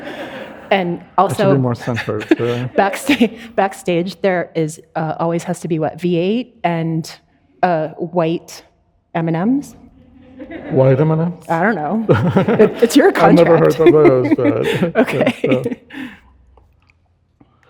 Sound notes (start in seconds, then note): 0.0 audience laughing; 4.1 chuckles; 12.1 audience laughing; 12.1 laughs